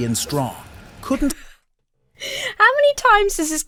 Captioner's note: laughs